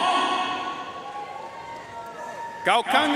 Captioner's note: audience cheering and applauding